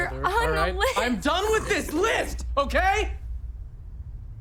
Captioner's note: growling